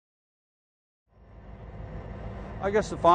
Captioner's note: diesel train hums